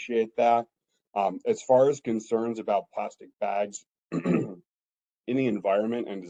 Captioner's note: cough